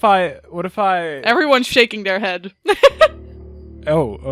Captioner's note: laughs